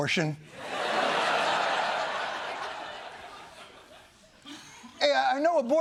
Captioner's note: laughter